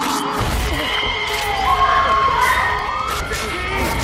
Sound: electric current flashing; Jean screaming

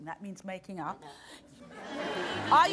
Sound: audience laughs

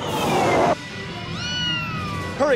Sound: engines roaring; meow

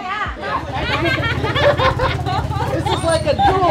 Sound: laughing

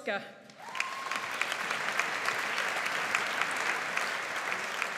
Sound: audience applauds

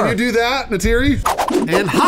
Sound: awesome flip sounds

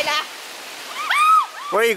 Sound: screaming

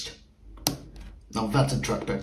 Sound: button sound

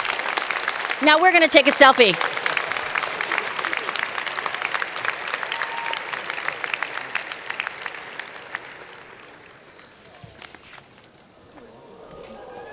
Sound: cheers and Applause

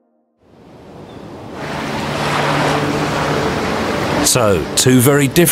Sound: ocean waves crashing; serene music

